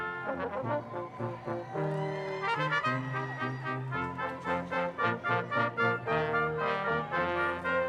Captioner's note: upbeat marching band music; audience cheering loudly